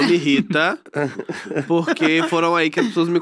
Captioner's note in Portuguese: risos